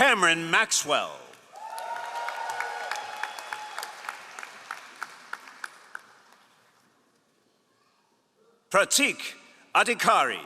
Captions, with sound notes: Cameron Maxwell. (all applauding) Pratik Adhikari.